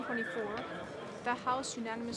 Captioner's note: speaking French